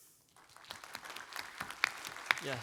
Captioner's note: applause